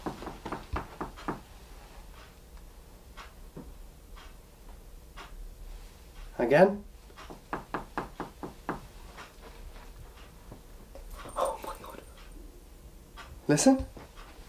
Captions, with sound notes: (knocks on wall) Again. - Oh my god. - Listen.